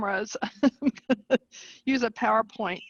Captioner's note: laughing